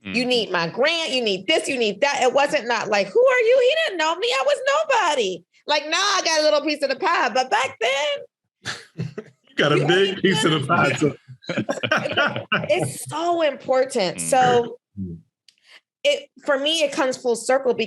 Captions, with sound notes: "You need my grant, you need this, you need that." It wasn't not like who are you? He didn't know me. I was nobody. Like now I got a little piece of the pie, but back then. - You got a big piece of the pie. (laughing) - It's so important. So it, for me, it comes full circle